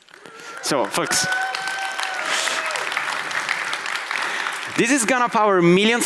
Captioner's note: audience applauds